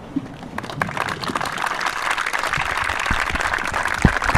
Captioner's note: audience applauding